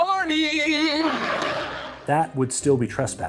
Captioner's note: crowd laughs